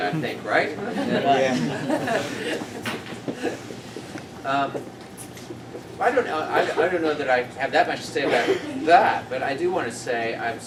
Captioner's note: laughter